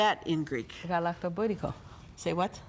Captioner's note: foreign language